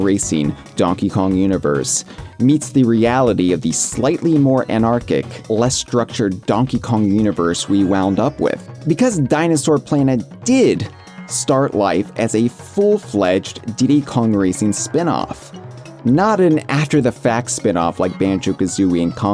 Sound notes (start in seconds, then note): none